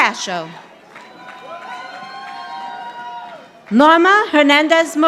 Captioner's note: audience applauding